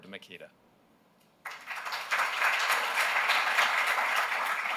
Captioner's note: applause